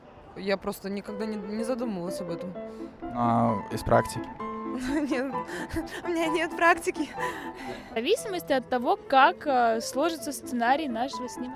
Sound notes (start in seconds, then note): 6.4 laughter